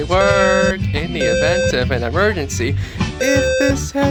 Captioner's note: fire Alarm sounding in Code-3 520 Hz square wave tone; fire Alarm sounding in Code-3 520 Hz square wave tone